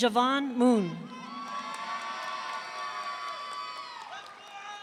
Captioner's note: audience cheering